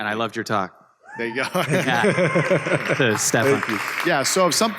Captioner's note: applause